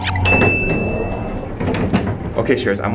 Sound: door pings

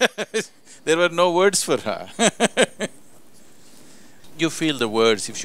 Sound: laughs; laughs

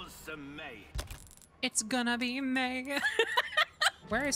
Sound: laughter

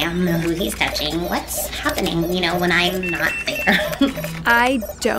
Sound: laughs

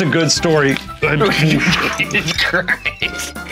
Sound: laughing

